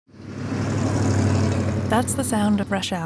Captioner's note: sound of motor